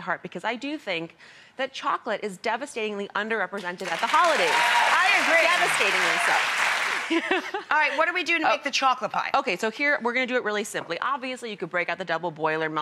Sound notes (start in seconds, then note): 3.9 audience cheers; 6.9 laughs